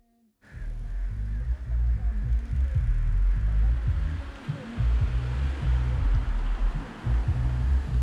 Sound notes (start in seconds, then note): 0.5 rap music; 0.6 car humming